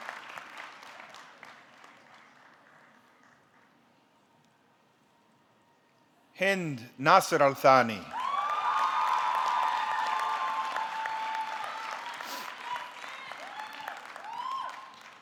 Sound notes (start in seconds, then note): 7.6 audience clapping; 8.1 audience cheering